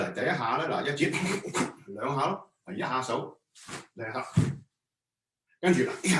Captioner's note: Cantonese